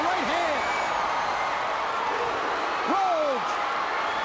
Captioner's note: crowd cheering